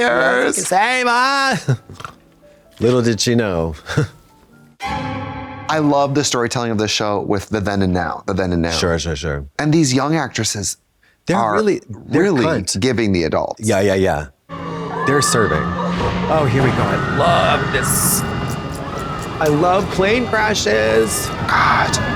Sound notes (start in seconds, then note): 1.7 Katya snorts; 4.8 eerie tone; 18.5 Katya claps